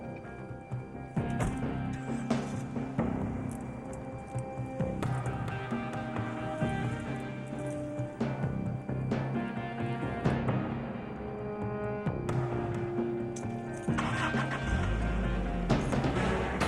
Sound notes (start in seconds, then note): 1.4 car engine turns; 2.3 soft music